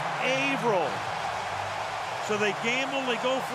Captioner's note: cheering